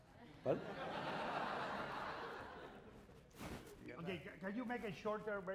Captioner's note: laughter